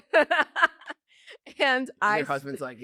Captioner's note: laughs